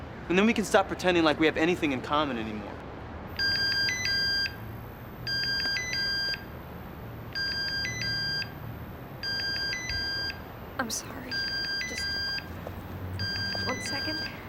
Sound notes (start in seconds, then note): 3.3 phone starts ringing